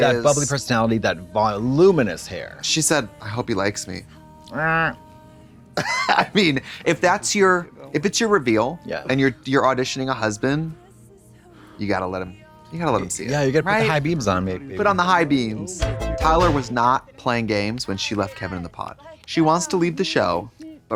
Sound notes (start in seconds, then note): 4.5 Katya honks; 14.6 synth bop